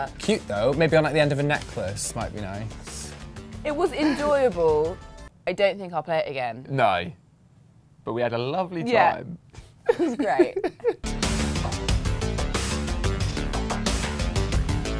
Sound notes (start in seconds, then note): 9.8 laughs; 11.0 exciting electronic music